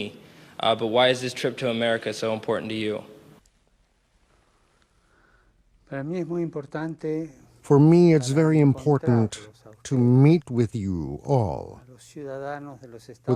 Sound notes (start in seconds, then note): 8.6 speaking foreign language